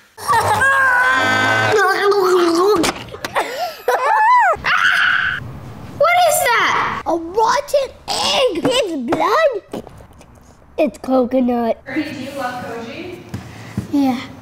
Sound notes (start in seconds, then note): 0.2 children yelling; 3.4 laughter; 3.9 screams